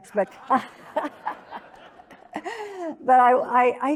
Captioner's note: audience laughing